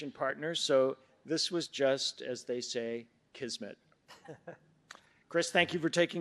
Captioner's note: chuckles